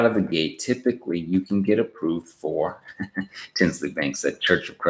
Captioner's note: laughs